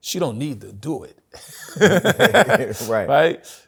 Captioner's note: laughter